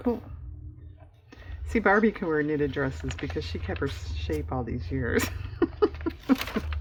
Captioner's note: laughs